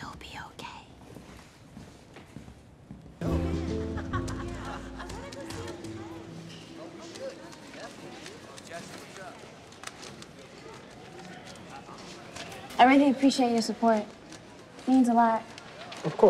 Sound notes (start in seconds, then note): 3.2 gentle string music; 4.7 students chattering in background